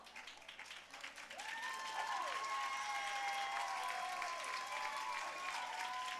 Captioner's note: audience cheering and applauding